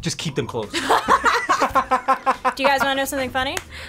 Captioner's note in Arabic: الفريق يضحك